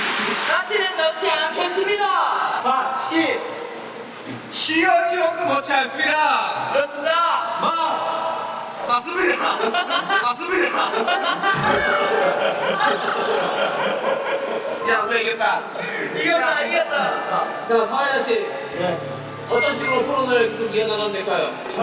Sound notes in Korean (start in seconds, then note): 11.0 푸흡